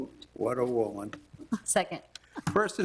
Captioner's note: chuckles